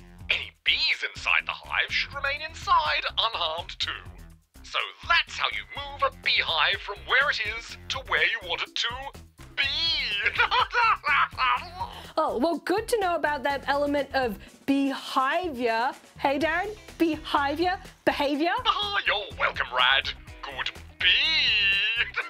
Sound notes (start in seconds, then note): 9.6 laughs